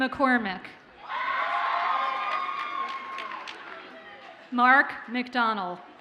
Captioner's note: audience cheers and applauds